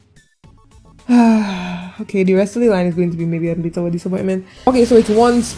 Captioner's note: sigh